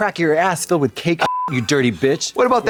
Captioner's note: beep